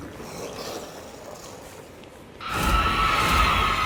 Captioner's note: zombies growling; enemies shrieking